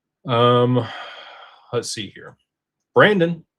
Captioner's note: sighs